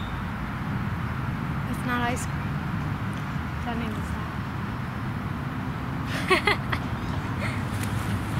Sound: laughs together

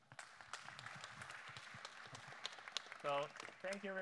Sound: audience applauding

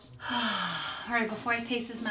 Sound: sighs loudly

